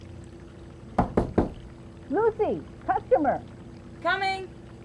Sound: knocking at door

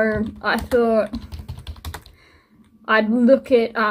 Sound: keyboard sounds

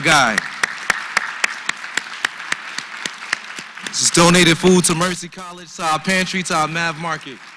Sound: applause

